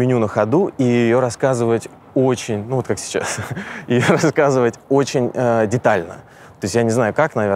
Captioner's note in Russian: смеётся